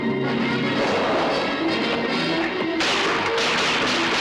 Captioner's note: intense orchestral music; guns firing